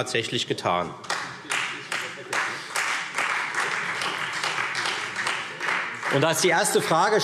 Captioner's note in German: Beifall Freie Demokraten